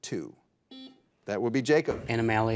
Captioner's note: buzzer dings